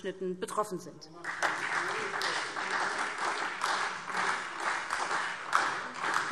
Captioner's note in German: Beifall SPD